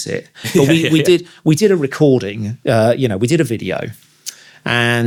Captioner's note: laughs